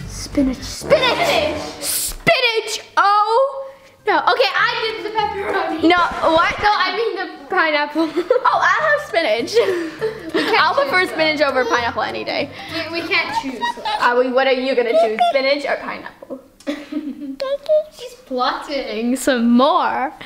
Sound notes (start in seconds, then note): 8.0 laughs; 14.8 baby babbling